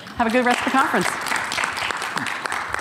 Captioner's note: audience clapping